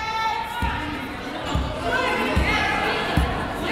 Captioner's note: yelling